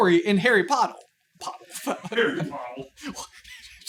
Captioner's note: laughing